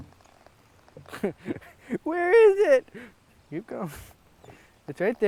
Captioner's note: chuckles